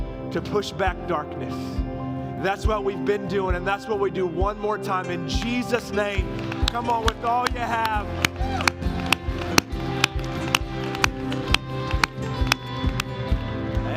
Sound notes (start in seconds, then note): 8.4 la congregación aplaude